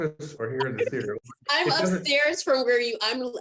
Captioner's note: laughing